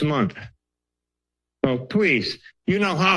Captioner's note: pause